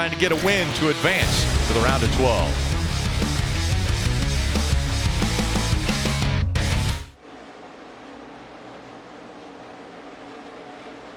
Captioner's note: distorted voice